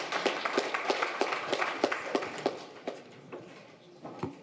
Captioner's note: audience applauds